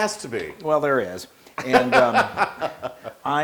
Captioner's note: laugh